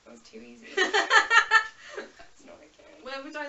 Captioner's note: laughs